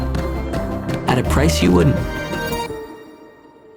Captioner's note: tapping